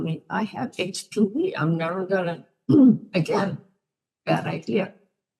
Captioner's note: ahem